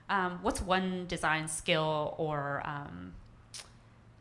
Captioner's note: none